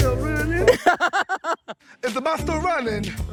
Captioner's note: laughing